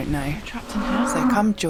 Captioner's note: demonic moo